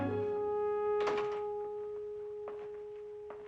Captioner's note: door Closes